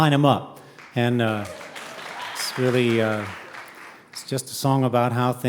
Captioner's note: audience cheering